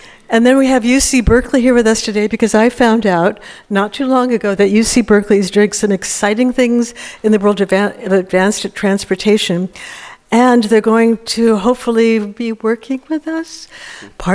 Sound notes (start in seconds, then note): none